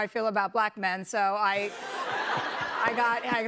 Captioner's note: laughter